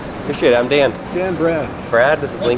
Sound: male Voice

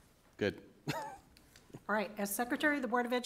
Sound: chuckle

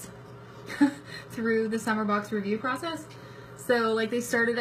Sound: laughs

